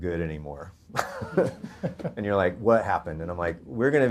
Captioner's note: audience laughter